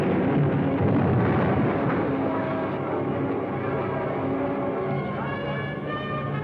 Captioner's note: explosion booming; dramatic music